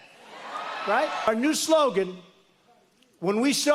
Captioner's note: cheers and applause